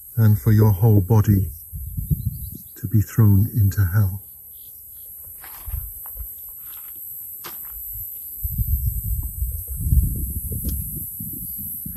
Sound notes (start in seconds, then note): 6.7 crickets chirping